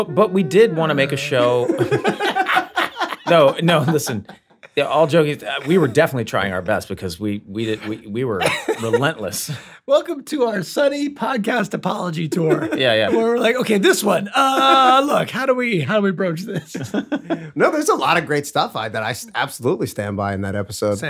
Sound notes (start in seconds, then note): 2.4 all laughing loudly